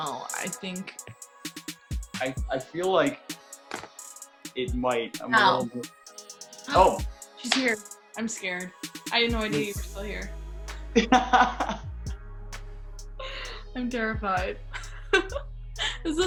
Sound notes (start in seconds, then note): 11.0 laughter